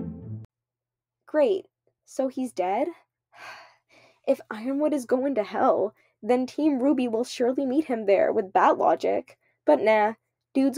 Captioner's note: sigh